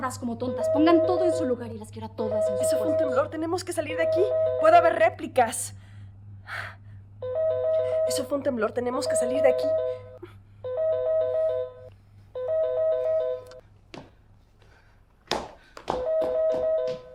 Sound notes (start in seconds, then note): 7.2 phone rings